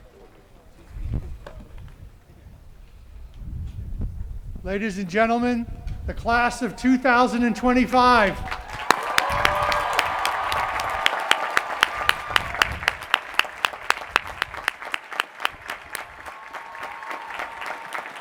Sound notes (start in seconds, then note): 8.3 cheering and applause